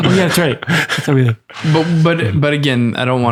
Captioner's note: chuckles